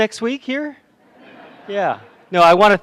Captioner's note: laughter